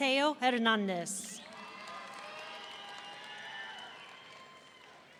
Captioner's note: audience cheering